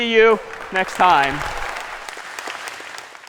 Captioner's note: applause